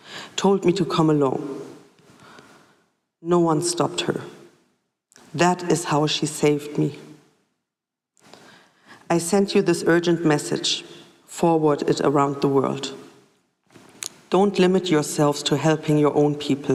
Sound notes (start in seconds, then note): none